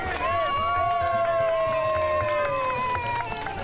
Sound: all cheering

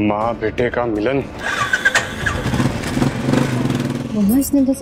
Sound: starts bike

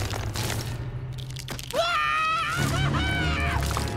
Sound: screaming

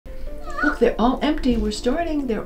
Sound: griffin chirps

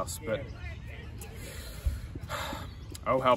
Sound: sigh

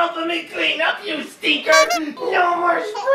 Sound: clown horn sound effect

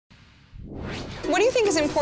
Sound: whooshing sound

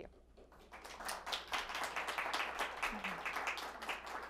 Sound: audience applauding

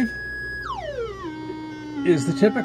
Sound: droning pitch varies

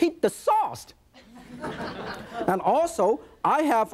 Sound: audience laughing

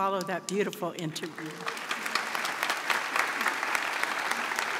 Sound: audience applauds

